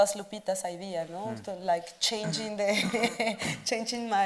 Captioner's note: chuckles